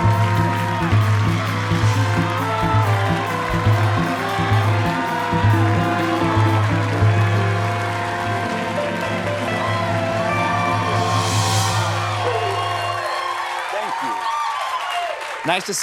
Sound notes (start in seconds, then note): 0.0 cheers and applause; 11.0 cheers and applause